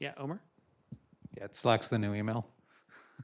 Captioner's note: laughs